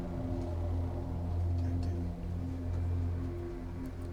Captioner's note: whispering